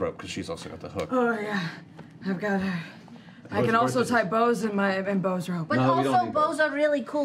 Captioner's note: strained